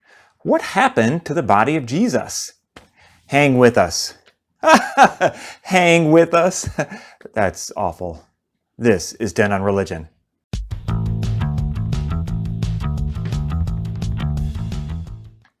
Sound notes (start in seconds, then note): 4.6 laugh